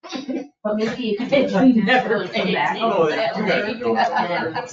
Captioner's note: people speak distantly; people chatter